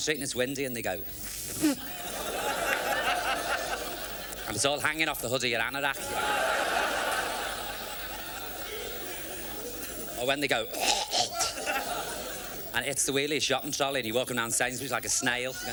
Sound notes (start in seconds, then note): 1.2 imitates blowing nose; 10.7 imitates spitting